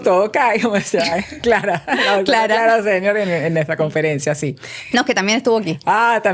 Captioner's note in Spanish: risas